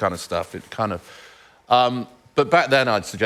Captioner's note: none